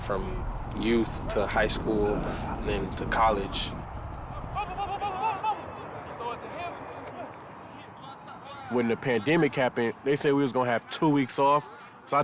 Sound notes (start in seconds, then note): 4.4 person shouts